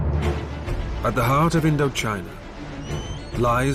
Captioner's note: questing music; voiceover